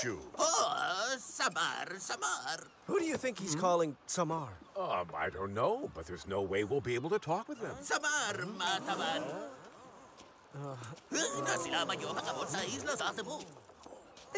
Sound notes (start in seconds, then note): 8.9 crew gasps